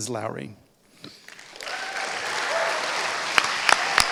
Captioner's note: applause